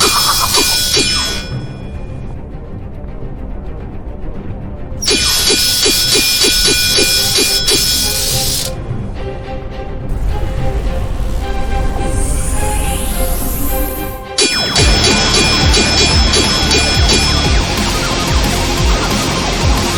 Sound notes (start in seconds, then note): 5.1 electricity crackling; 5.1 swords clanging; 11.0 wind whooshing; 14.8 electricity crackling; 14.8 swords clanging; 17.0 heavy rock music